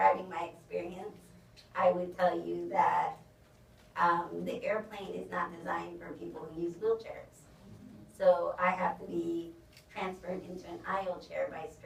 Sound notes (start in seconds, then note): none